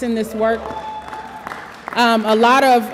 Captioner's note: audience applause